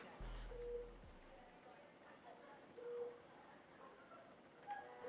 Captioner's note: machine beeping; rap music fades; machine continues beeping